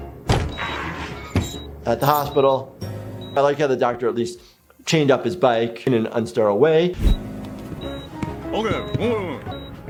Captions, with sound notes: (tires screech) At the hospital, I like how the doctor at least chained up his bike in an unsterile away.